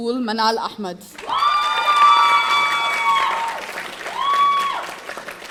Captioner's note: audience cheering